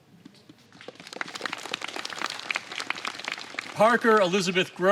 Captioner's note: applause